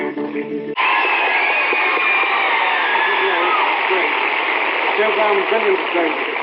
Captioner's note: cheers and applause